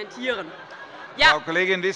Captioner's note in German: Allgemeine Heiterkeit